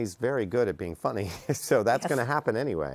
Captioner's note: laughs